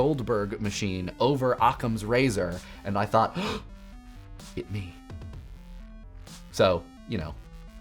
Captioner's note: gasps